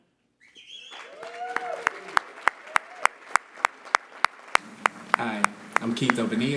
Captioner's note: applause